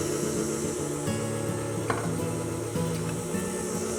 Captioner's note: blender whirling